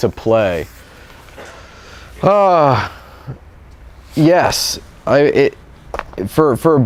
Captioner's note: sighs